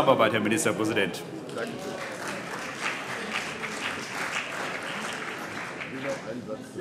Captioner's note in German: Beifall CDU und BÜNDNIS 90/DIE GRÜNEN - Zurufe CDU: Oh!